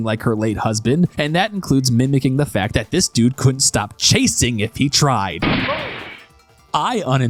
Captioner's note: gunshot